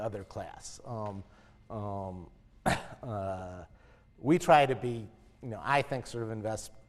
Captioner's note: cough